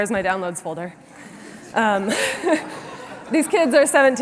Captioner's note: laughter